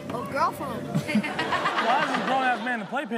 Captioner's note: all laugh